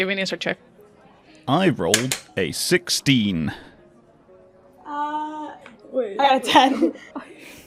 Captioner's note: dice clacks